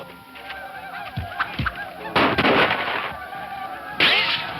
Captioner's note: more gunshots